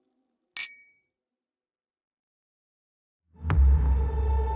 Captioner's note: glass clinking; tense music